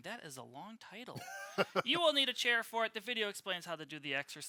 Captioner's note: laughter